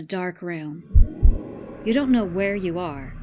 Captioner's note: heartbeat sound effect